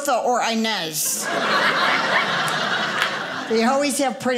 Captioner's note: audience laughing